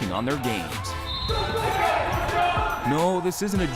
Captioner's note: whistle blows